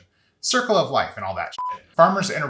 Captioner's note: beep